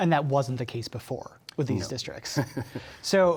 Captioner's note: laughs